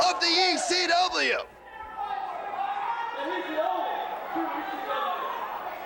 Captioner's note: crowd chatter